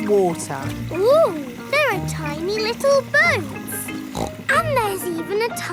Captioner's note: snorts